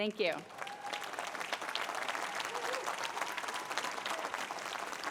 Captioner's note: applause